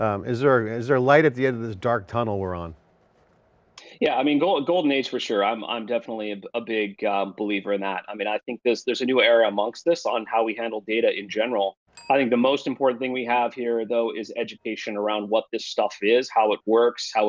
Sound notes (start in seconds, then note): 11.9 bell dings